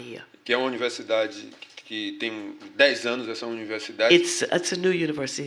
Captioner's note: speaking portuguese